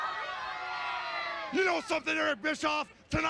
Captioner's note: crowd cheering